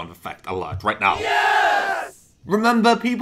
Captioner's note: crowd cheering